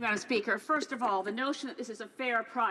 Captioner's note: speaking French